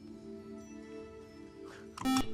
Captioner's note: beep